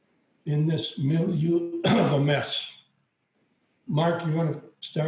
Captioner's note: coughs